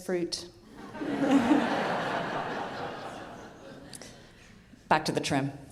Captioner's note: audience laughing